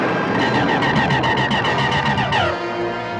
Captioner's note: zapping